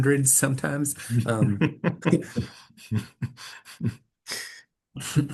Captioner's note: laughter